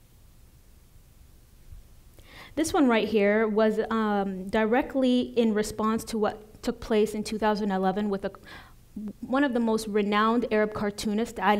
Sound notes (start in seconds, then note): none